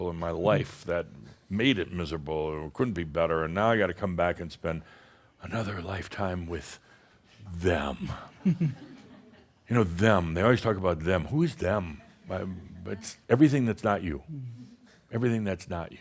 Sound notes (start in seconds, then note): 8.4 giggles